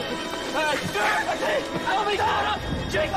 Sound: men screaming

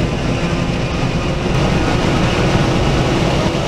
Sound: carmony of engine noise

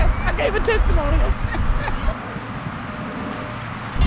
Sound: laughs

